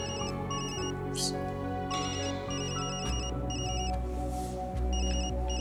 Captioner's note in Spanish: Sigue sonando el teléfono